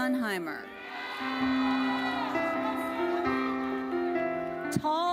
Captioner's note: audience cheering; gentle music